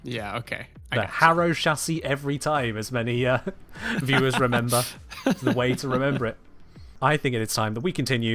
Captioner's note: laughs